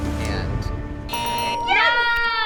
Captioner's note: suspenseful music; buzzer ringing; bells ringing